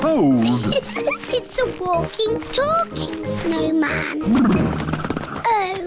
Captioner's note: laughs